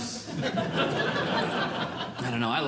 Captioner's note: audience Laughing